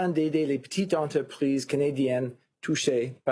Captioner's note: speaking FRENCH